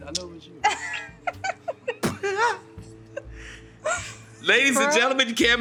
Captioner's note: laughs